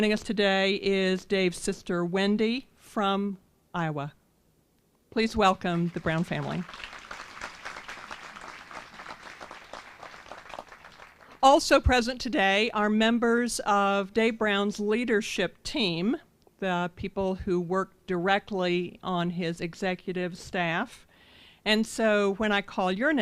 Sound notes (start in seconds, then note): 5.5 applause